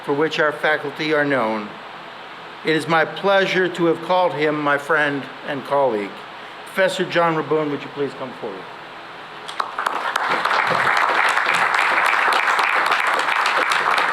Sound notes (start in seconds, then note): 9.5 applause